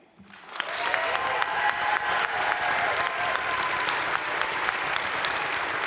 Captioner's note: audience cheering and applauding